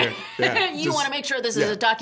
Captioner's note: laughing